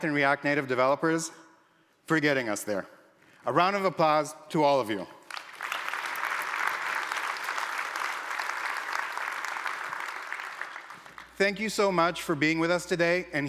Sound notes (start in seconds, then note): 5.2 applause